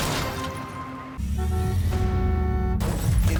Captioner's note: car horn honks